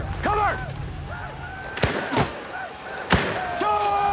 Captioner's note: gunshot